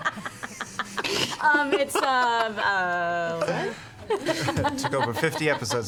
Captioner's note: laughter